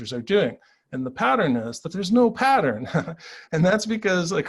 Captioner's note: chuckles